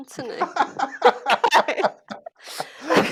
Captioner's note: laughing